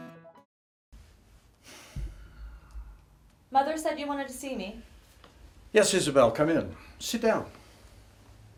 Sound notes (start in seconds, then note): 1.6 Dr. Jewell sighs